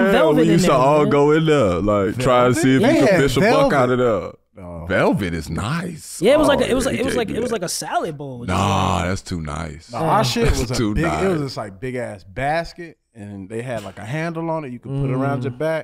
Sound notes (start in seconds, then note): none